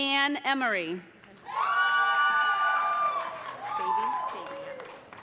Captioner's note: cheers and applause